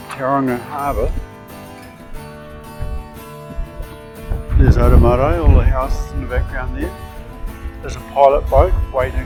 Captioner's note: wind noise